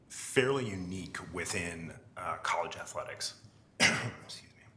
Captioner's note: coughs